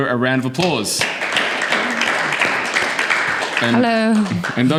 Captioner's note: audience clapping